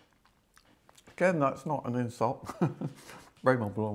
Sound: laughs

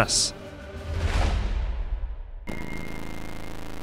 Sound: air whooshing; screen buzzing

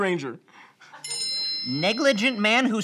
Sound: bell noise

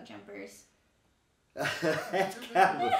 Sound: laughing

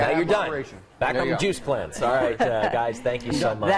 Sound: laughter

